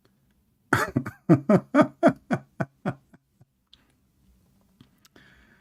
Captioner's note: Ketawa